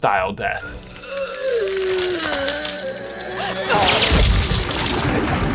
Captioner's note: moans in pain; explosive burst; audience applauds